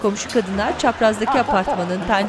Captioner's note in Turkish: Gülme sesi